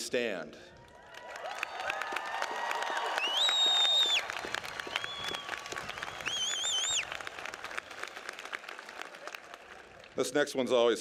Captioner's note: applause